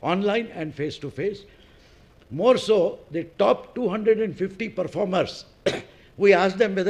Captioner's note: cough